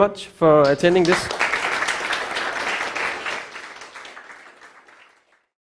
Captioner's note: applause